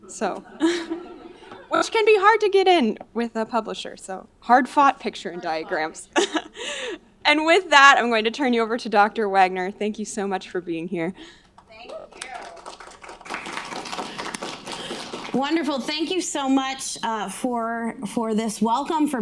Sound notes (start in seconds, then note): 11.6 audience applauding